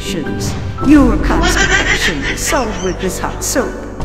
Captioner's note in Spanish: Riendo